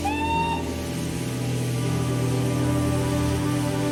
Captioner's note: train whistling